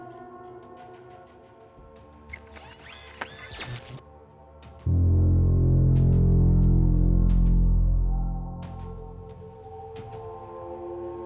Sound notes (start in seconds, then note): 2.3 Kellogg whirring; 4.9 chilling tone; 7.7 soft ominous music